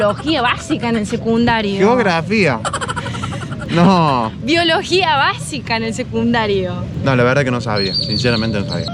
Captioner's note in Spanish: risas